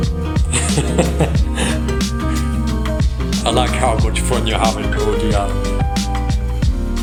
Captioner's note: laughs